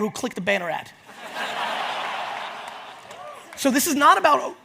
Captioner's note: audience laughs